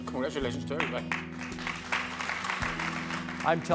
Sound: clapping

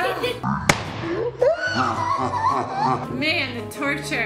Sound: balloon pops

